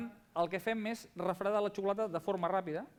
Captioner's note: non-english speech